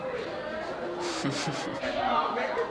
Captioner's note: laugh